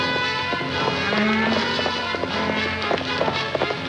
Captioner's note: horse galloping; cows mooing